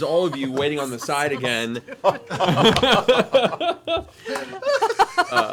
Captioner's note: laughter